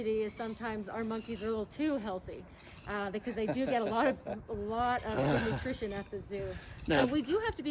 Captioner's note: man Laughing